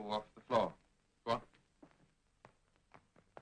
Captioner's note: footsteps below